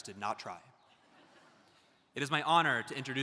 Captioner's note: audience laughs